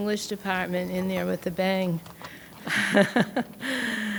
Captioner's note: laughs